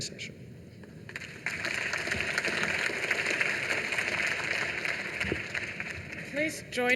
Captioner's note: applause